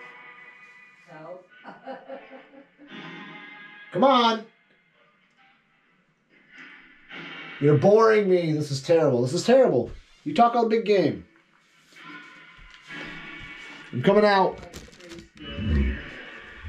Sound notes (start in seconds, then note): 1.5 laughs